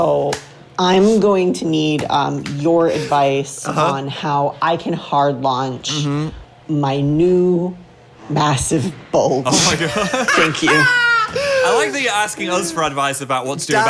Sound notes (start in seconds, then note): 7.7 laughs; 9.5 laughs